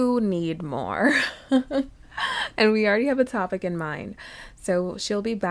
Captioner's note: laughs